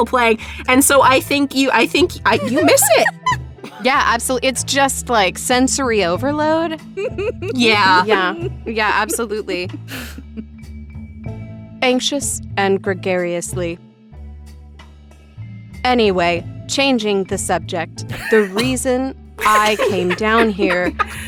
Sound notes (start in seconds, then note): 18.1 EVERYONE laughs